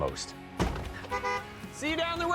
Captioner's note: honk